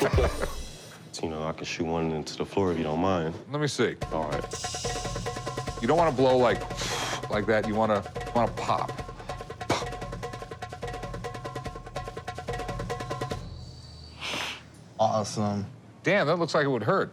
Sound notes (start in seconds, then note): 6.7 blowing air softly